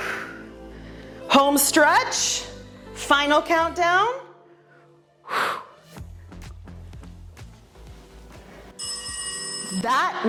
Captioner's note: exhales